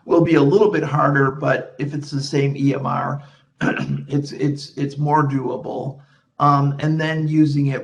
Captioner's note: clears throat